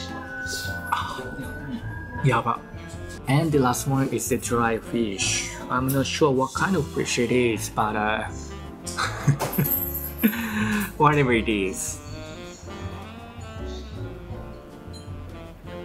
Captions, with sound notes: Ahh! Yabai! And, the last one is the dried fish. I'm not sure what kind of fish it is. But, uh... [CHUCKLE] whatever it is.